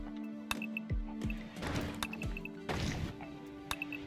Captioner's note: clicking